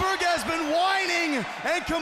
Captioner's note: crowd cheering